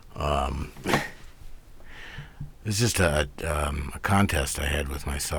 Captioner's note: laughs